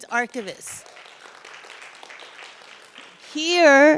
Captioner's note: audience applauds